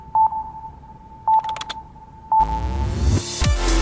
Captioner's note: slow sonar beeping; keyboard clacking loudly; upbeat music